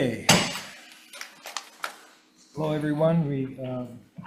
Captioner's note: gavel pounds